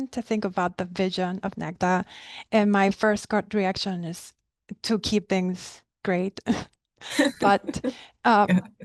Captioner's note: both laugh